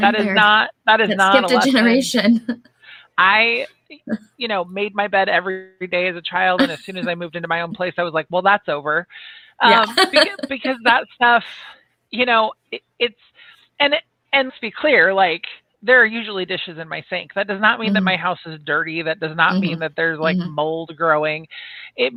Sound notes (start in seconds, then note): 9.6 laughs